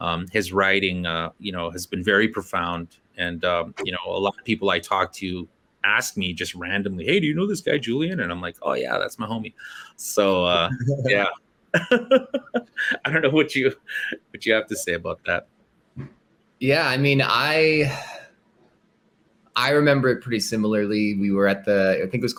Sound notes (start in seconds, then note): 11.7 laughter